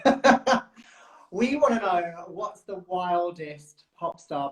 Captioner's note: laughs